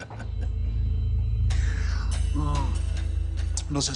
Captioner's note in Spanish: Risas